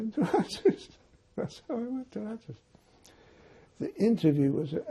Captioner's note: laughing